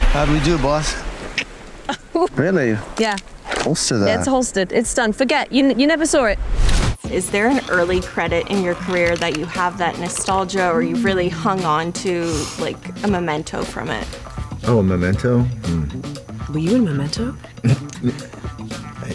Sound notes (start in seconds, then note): 3.0 clicks